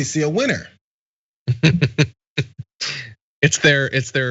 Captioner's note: laugh